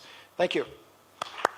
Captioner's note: applause